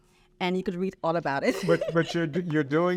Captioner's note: laughs